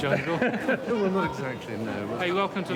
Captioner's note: chuckles